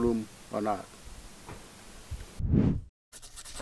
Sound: sound effect

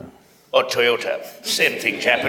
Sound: few laugh

